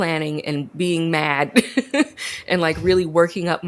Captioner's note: laughs